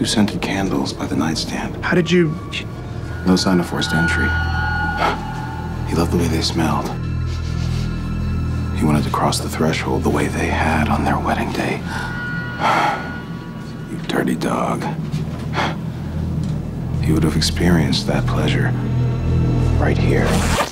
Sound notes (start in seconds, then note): 5.0 dramatic music; 12.7 sighs